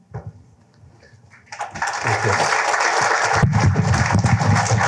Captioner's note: applause